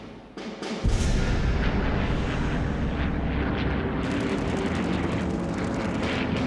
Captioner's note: dramatic music; plane engines roaring